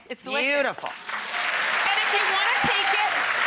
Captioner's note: audience applauds